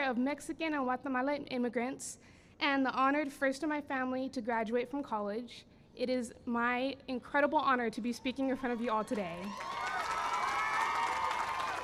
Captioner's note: cheering and applause